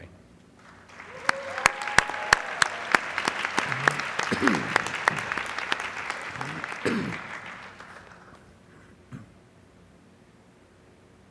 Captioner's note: applause